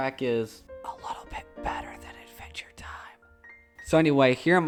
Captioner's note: whispering